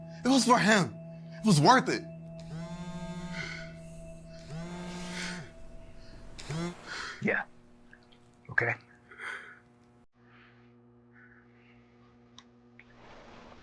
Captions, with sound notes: It was for him. It was worth it. (cell phone vibrating) - Yeah. Okay.